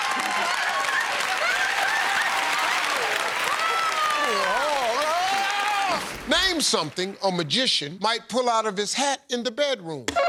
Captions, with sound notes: [ Shouts ] Name something a magician might pull out of his hat in the bedroom.